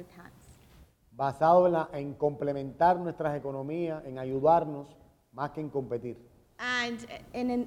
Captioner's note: speaking in Spanish